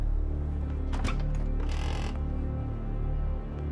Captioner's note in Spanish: ruido de la puerta